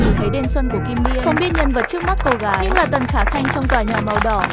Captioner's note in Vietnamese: vỗ tay